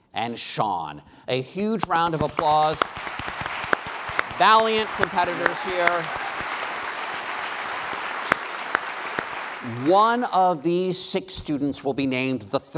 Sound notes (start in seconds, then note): 6.2 applause